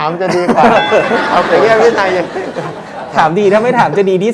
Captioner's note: laughing sound